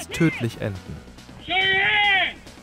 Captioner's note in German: englisch